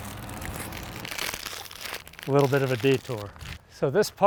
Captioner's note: plastic crinkles